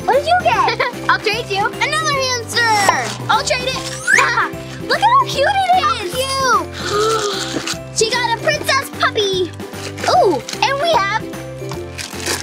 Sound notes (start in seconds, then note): 0.5 giggles; 2.8 pop; 3.7 laughs; 6.8 enthusiastic sigh